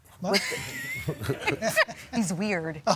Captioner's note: all laughing